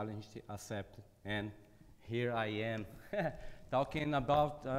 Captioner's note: chuckles